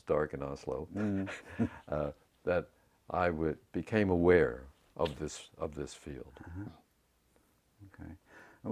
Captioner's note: laugh